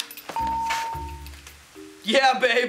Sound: bell rings

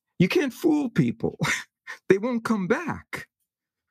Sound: laugh

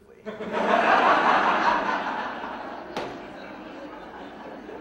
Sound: audience laughing

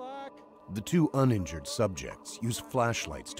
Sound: voiceover

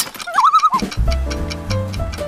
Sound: loon call

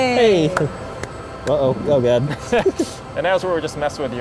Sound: laughter

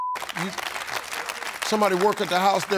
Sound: beep; audience applauding

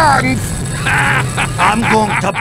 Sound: laughs

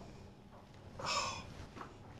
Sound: gasps

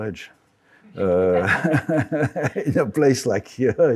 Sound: audience member laughs; laughs

